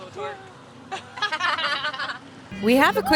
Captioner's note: laughter